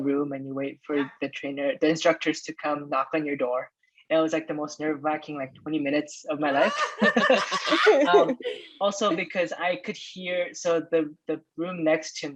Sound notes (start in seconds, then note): 6.6 laughter